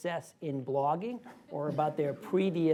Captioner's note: laughter